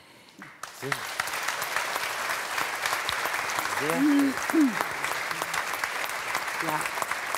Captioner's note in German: Applaus